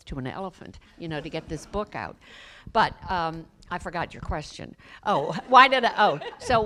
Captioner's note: laughter